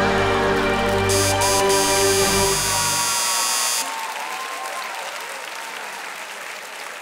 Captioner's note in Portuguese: campainha e aplausos